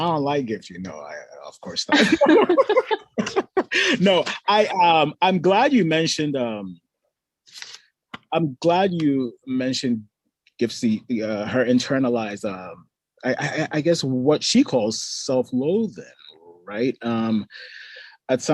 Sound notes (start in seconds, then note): 1.9 both laughing